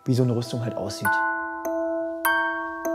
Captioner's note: chimes